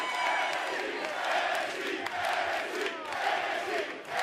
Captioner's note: cheers & applause; fans chanting